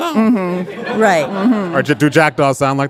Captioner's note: audience laughing